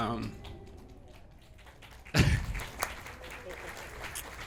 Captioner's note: audience Applauding